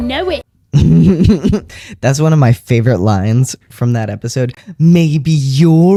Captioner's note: laugh